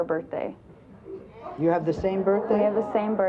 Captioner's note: audience gasps